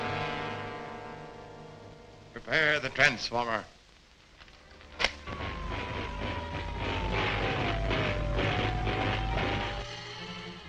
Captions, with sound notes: - Prepare the transformer. (electricity crackles)